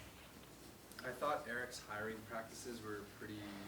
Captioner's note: voiceover